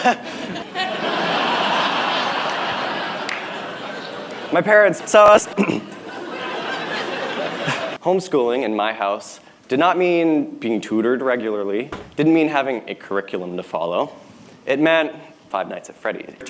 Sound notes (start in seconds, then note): 0.0 laughter; 0.0 chuckles; 5.5 clears throat; 5.7 laughter